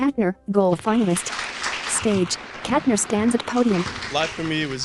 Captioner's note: applause